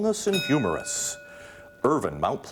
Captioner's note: ding